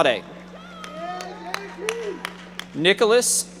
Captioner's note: audience members applauding